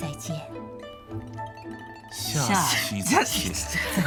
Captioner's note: laughs